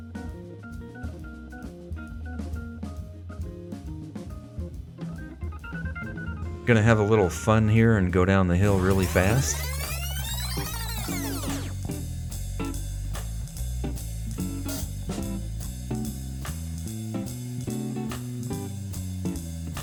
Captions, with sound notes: Gonna have a little fun here, and go down the hill really fast [sound of tape rewinding]